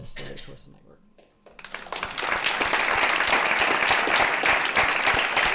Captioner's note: applause